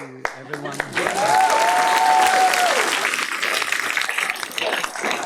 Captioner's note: clapping